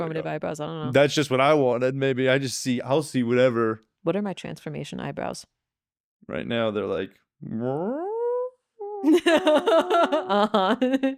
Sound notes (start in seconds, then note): 8.6 imitates air whooshing; 9.0 laughing